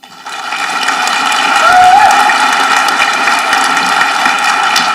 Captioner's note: audience applauding